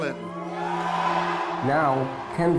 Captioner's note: audience cheering